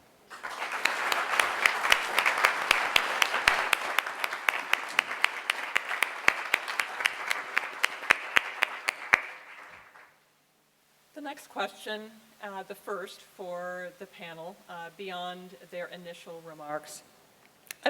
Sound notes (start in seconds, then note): 0.2 applause